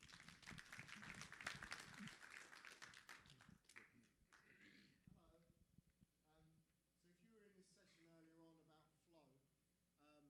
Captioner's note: applause